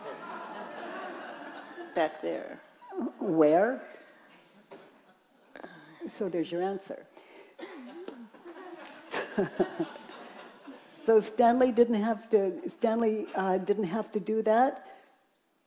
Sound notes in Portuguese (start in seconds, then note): 0.0 risos da plateia; 9.2 risos da plateia